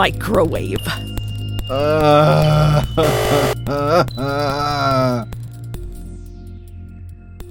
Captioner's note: buzzer